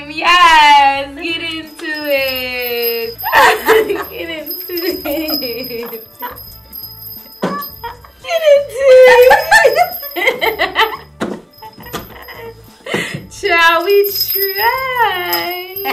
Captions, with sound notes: Yes, get into it! (giggling) (chimes ringing) Get into it! (laughing) - Get into it! (laughing) - Child, we tried, and this is what we have.